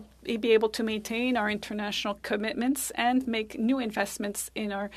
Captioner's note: speaking French